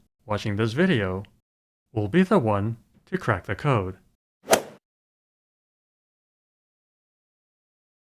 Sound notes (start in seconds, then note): 4.5 swoosh